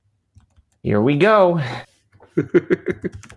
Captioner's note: laughs